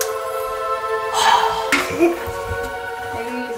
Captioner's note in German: Freudenlaute